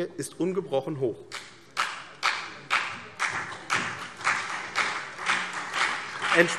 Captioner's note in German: Beifall CDU und BÜNDNIS 90/DIE GRÜNEN